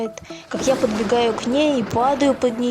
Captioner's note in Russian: гром